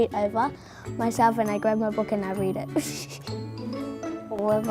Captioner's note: laughter